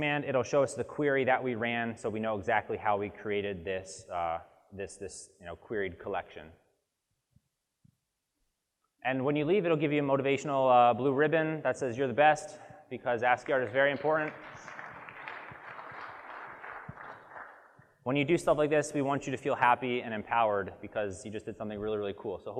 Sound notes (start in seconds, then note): 13.4 audience claps